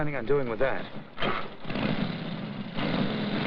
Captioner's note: motorcycle starts